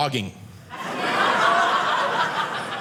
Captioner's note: audience laughing